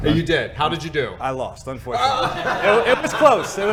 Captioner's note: laughing